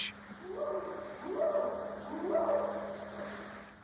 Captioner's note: short howls